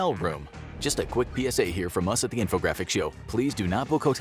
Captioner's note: spoken in a rapid, announcer-y type voice